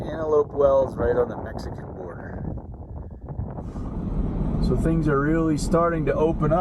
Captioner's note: truck noises